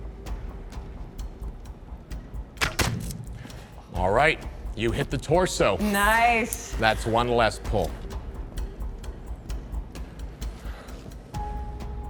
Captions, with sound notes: (arrow whooshing) All right, you hit the torso. Nice! That's one less pull. (suspenseful music)